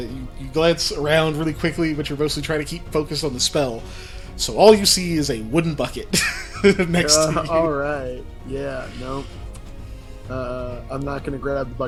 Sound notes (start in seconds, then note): 6.0 laugh